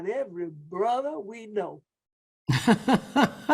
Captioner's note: laughs